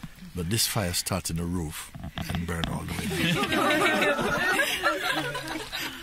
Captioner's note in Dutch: gelach